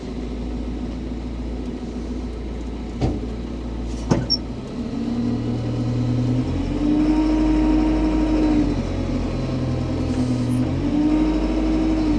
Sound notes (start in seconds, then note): 5.7 vehicle humming continues